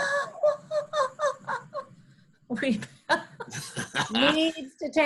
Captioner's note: laughs